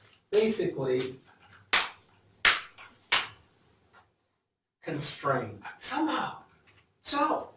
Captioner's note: claps